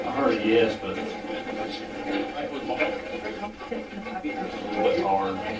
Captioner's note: static playback transmitting